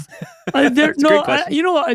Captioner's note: laughing